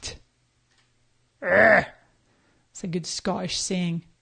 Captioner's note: groans